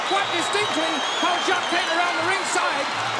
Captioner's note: crowd cheers